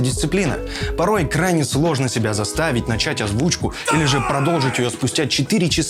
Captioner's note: shout in the background: "Come on!"